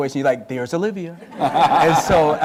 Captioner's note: laughter